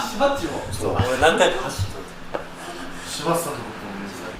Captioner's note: laughs